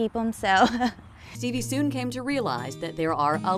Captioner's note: laughs